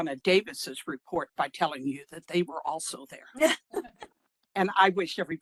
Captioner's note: laughing